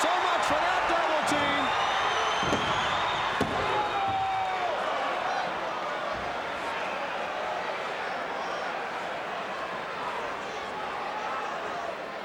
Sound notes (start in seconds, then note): 2.3 hand slams